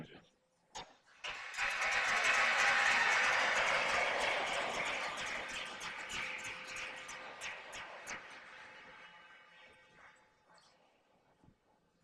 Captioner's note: cheers and applause